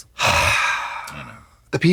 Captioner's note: Trixie sighs